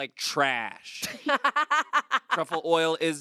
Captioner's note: laughs